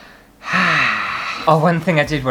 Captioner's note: sigh!